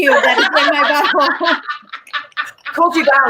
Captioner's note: laughing